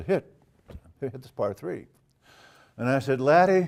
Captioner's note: laugh